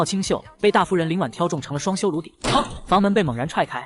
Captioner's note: bang!